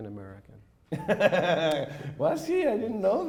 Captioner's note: laughing